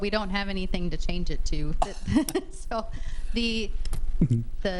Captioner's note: laughs